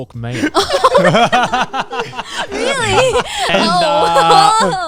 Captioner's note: all laughing